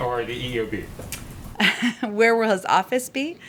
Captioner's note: laughs